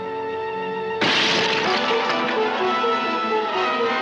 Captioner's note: bottle smashing